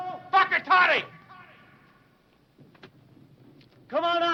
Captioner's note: speaking foreign language